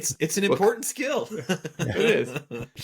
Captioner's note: laughing